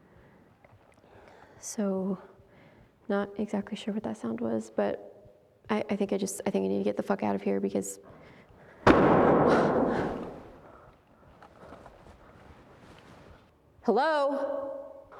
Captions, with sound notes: So, not exactly sure what that sound was, but I think I need to get the fuck out of here, because... (door bangs) Hello?